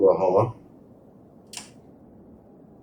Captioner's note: crowd Noises